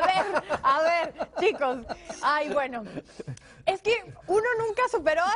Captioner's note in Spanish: risas